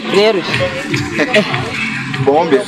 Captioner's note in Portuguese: risos